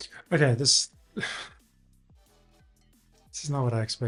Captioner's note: sighs